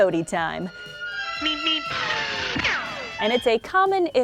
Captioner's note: orchestral music; roadrunner chirps